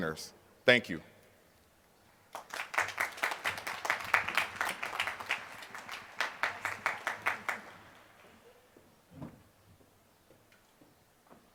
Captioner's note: applause